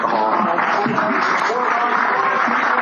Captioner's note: applause